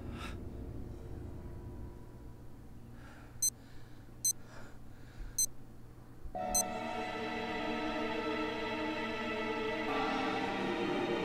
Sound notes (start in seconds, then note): 3.7 watch beeps; 6.9 suspenseful instrumental music